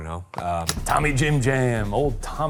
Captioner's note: projector clicking